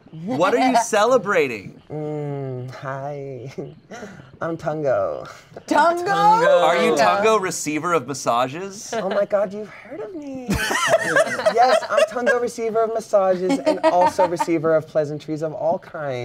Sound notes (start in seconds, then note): 3.2 giggles; 10.5 everyone laughs